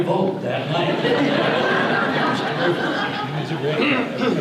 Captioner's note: audience laughter